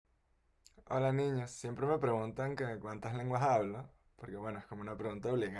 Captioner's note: in Caribbean Spanish